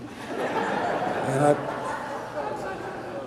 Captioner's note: audience laughter